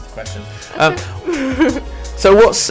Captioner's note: giggles